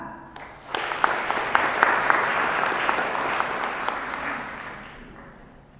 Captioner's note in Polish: oklaski